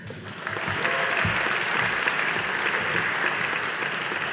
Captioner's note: audience applauding